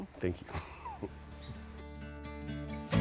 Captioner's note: laughs; mellow guitar music